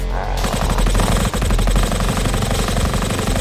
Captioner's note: blaster fire